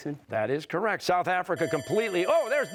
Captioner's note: bell ringing